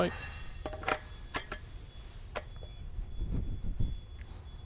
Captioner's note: metal tinkling